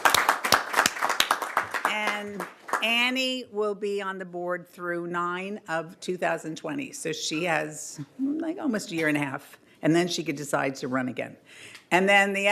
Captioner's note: applause